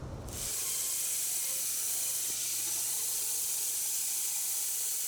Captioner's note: electric saw screeching